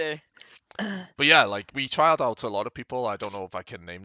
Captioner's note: laughs